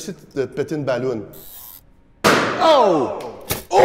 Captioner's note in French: petite explosion